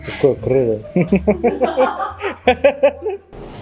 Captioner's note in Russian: смеется